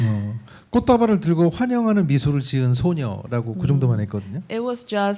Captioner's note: speaking korean